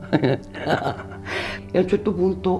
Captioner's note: laughs